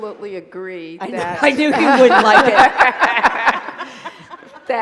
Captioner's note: talkover and laughter